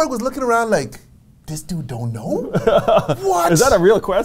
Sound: laughs

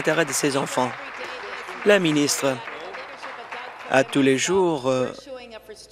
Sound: applause

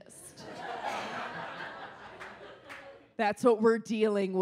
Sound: audience laughs

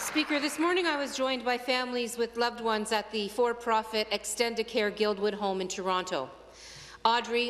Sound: applause

